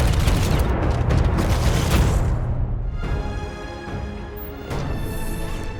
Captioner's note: gun thumping